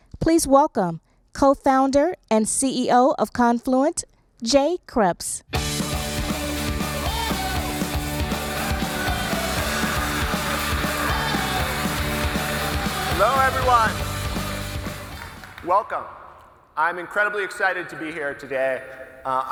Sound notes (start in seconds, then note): 5.9 uptempo cheery music; 10.9 audience applauding